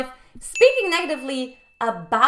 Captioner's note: bell dings